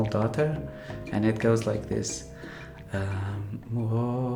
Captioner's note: begins to hum/sing